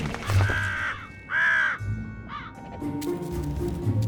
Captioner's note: birds cawing